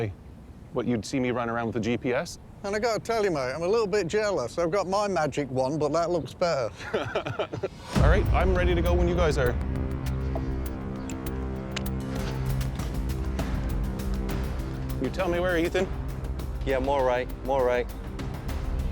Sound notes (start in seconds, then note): 6.7 laughter